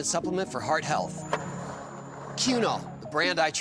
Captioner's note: skateboard wheels roaring